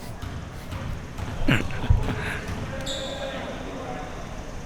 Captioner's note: chuckling